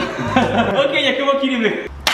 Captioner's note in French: rire